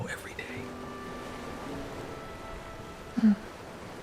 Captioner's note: ocean waves rolling in